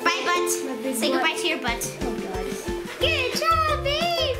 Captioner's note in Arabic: none